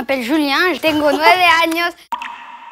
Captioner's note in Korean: 스페인어